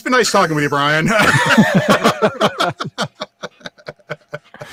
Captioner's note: laughing